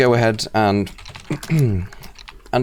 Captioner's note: clears throat